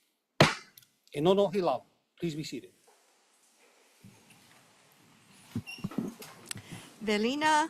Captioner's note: gavel bangs once